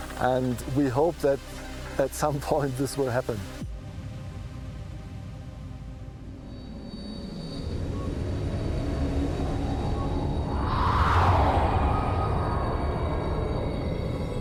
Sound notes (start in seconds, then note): 5.9 atmospheric sounds